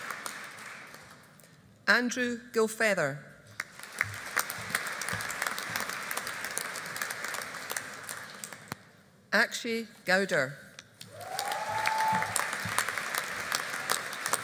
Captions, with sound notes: Andrew Gilfeather. (AUDIENCE APPLAUDING) Akshay Goudar. (AUDIENCE APPLAUDING)